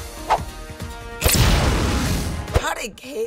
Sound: adventure music; flames burst

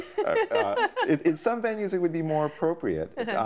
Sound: laughing

